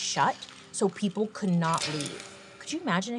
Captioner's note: chains clang